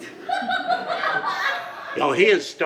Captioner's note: audience laughs